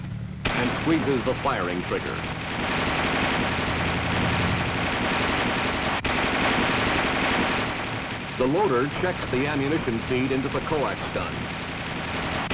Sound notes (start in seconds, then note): 2.3 machine gun firing